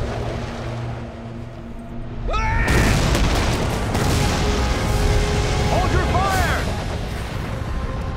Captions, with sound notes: [screaming] Hold your fire!